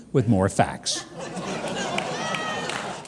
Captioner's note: crowd laughing